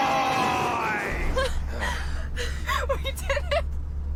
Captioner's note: laughing